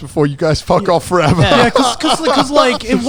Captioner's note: fake cries